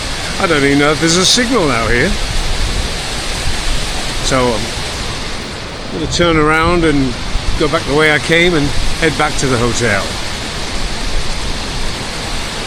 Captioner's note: phone